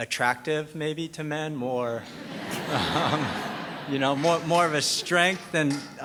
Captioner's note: laughter